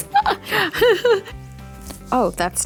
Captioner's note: laughs